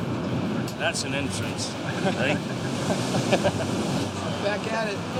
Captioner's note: both chuckling; chuckling